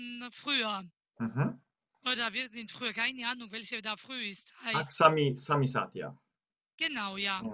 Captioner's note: in German; still in GEORGIAN